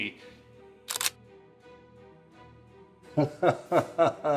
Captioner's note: click